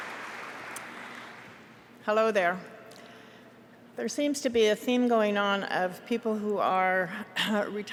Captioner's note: applause